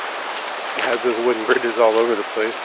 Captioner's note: rushing water